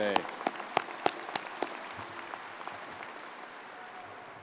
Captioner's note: crowd applauding